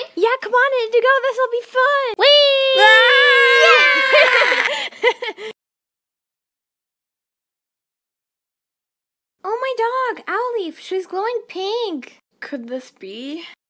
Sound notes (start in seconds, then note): 4.0 laughter